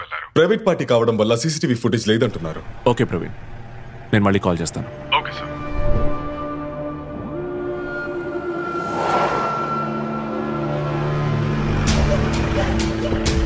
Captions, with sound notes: Since it's a private party, they say there isn't CCTV footage. Okay Praveen, I'll call you back. Okay, sir. (Car Screeching)